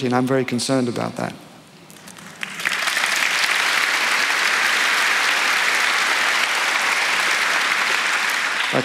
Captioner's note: applause